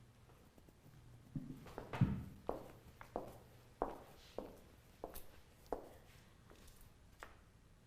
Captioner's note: footsteps